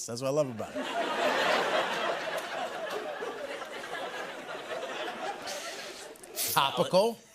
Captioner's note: laughter